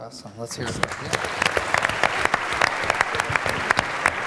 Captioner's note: applause